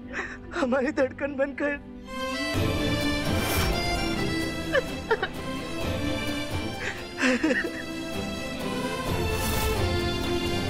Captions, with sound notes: It was my heartbeat. [sentimental music playing] [sobbing]